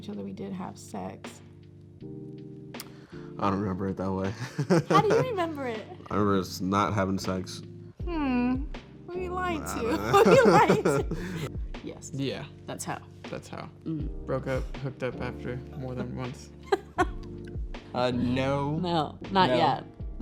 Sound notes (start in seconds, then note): 4.4 laughs; 9.7 chuckles; 16.6 woman laughs